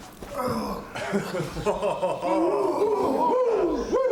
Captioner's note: all laughing